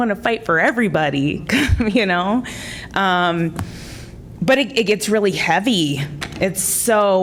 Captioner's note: laughter